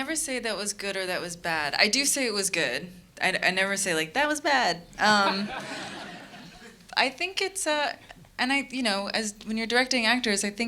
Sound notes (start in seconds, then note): 5.1 audience laughing